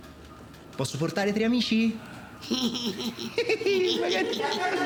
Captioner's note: all giggling